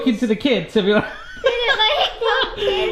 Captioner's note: laughs